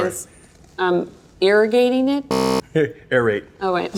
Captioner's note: buzzer interrupts